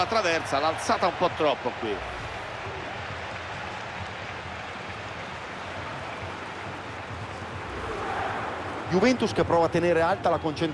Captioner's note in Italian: Applauso